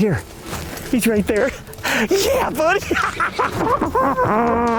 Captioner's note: laughs